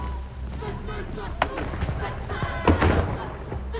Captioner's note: gunshots echo